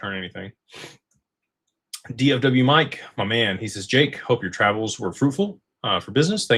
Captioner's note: snorts